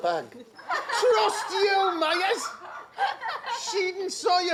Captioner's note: laughter